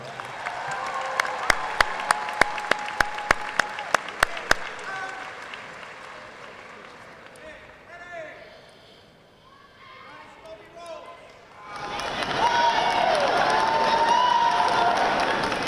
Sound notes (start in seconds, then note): 0.0 audience applauding; 4.4 drum major faintly shouting; 9.9 audience shouting drowns out drum major; 11.6 audience cheering